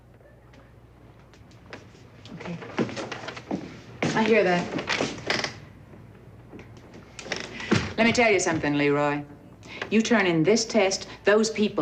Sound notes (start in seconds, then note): 5.2 floorboards creak